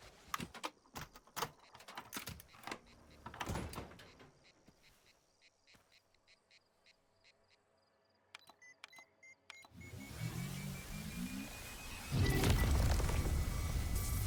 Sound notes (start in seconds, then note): 8.2 beeping; 12.0 explosion